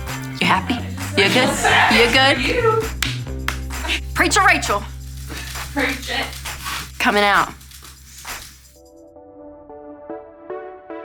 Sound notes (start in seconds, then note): 1.9 co-workers laugh; 8.4 upbeat music